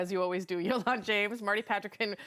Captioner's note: laughter